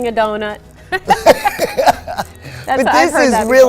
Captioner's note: laughing